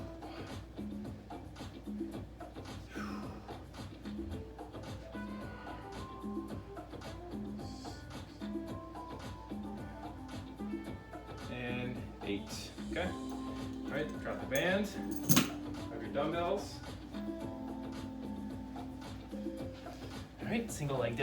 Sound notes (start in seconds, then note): 0.0 upbeat music; 0.2 breaths; 0.2 upbeat music; 3.4 breaths; 3.4 upbeat music; 5.2 breaths; 6.8 upbeat music; 10.3 breaths; 10.3 upbeat music; 18.3 upbeat music